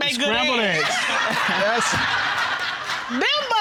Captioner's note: all laughing